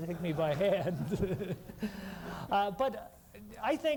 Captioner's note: laughter